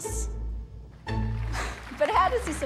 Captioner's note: applause